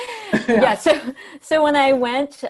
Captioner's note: both laugh